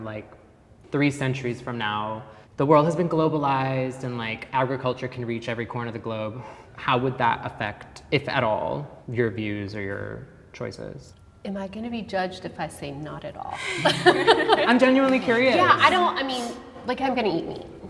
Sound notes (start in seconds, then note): 13.5 group laughing